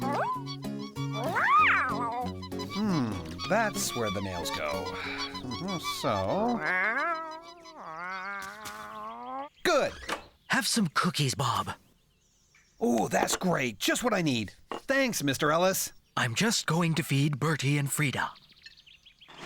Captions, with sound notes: ME-OOM? MEOW! HMM, THAT'S WHERE THE NAILS GO. ( Squeaking ) SO... MEOOW! MEOW! GOOD! HAVE SOME COOKIES, BOB! OOH, GREAT, JUST WHAT I NEED! THANKS, MR. ELLIS. I'M JUST GOING TO FEED BERTIE AND FRIEDA.